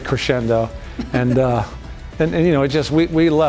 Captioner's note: laughing